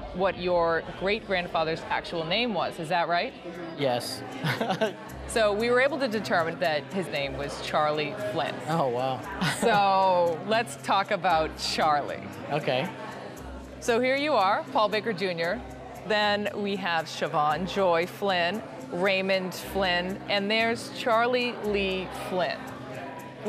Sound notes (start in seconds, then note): 4.3 laughs